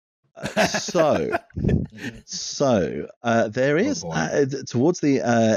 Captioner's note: laughing